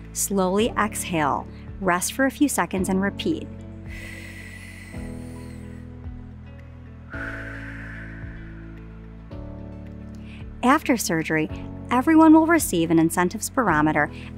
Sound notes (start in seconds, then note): 3.8 inhales; 7.0 exhales